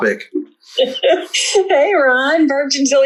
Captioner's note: laughing